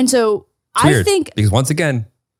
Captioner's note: none